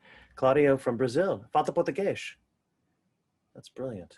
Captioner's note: speaking in foreign language